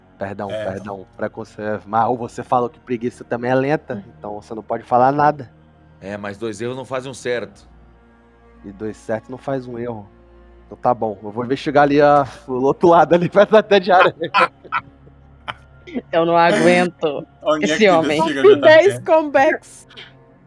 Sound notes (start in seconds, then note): 13.1 laughter; 13.1 laughing